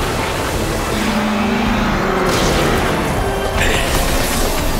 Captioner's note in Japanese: クラーケンのうなり声